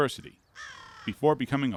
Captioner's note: bird croaking